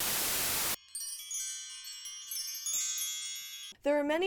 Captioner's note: chimes